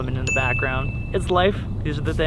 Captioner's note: bell pings